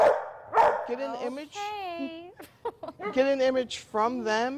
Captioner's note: dog barking